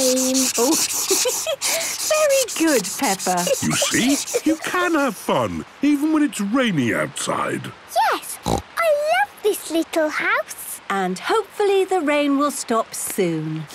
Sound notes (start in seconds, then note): 0.0 laughs; 8.4 snorts